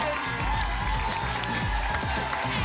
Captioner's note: applause and cheering cont